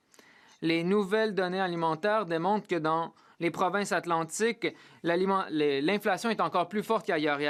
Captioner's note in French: voix de l'interprète